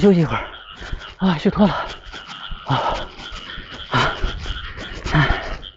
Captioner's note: panting